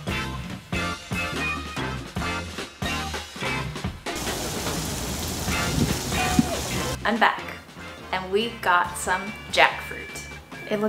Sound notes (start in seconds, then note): 4.1 rain falling